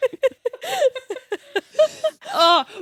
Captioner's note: everyone laughs